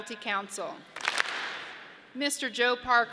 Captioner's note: audience claps